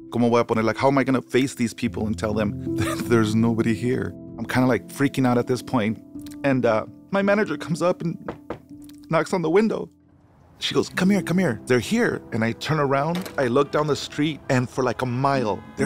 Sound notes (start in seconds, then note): 8.2 window tapping